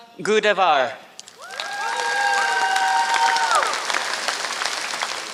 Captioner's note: applause